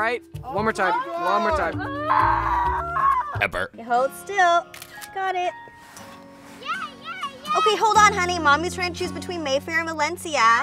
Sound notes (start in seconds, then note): 0.8 all moan; 0.8 screaming in frustration; 4.7 camera shutter clicks